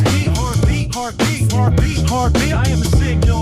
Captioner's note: heart beat